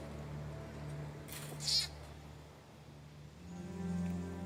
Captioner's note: orangutan chirping